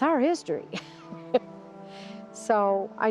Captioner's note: laughing